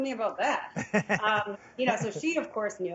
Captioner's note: laughing